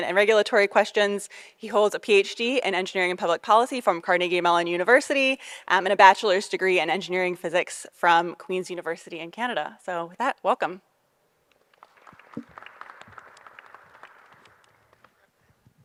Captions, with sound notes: and regulatory questions. He holds a PhD in Engineering and Public Policy from Carnegie Mellon University, and a bachelor's degree in Engineering Physics from Queens University in Canada. So with that, welcome. (audience applauding)